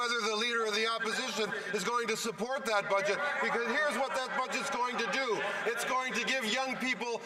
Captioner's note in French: voix de l'interprète